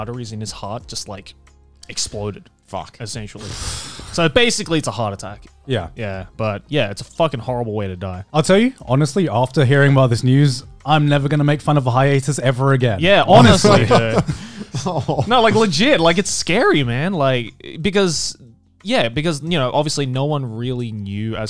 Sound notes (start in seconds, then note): 13.3 laughs